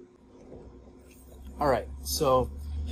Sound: wheels gliding

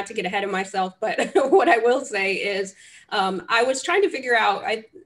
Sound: laughs

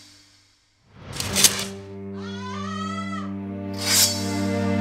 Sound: sword unsheathes; sword clinks; Katherine cries out; sword unsheathes

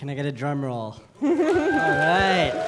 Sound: laughter; applause

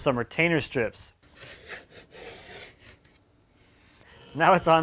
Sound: wood scraping

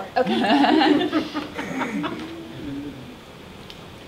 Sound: laughter

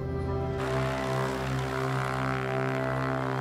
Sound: airplane rumbles

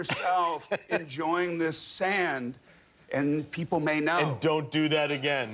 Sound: laughter

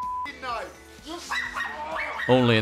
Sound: dog barking

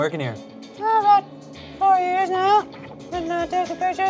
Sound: says in high voice

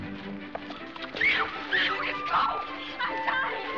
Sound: squeals

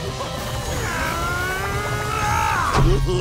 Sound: grunting

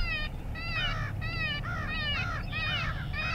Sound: crows cawing

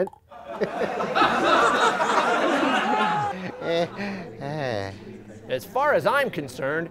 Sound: crowd laughing

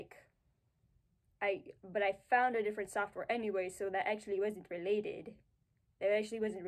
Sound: baby voice; contd. dumb voice

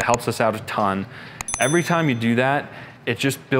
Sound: bell dings

